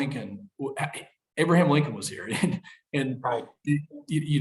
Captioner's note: laughs